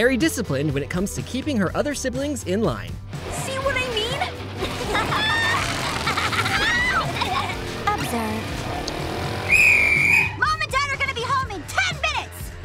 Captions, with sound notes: when it comes to keeping her other siblings in line. See what I mean? [laughing] Observe. Mom and Dad are gonna be home in 10 minutes!